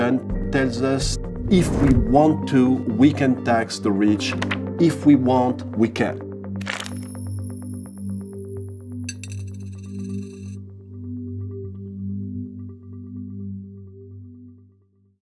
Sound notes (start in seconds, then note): 6.8 metallic ringing; 9.0 electronic music